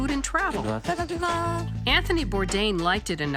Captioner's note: speaking in foreign language